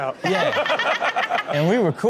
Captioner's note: everyone laughs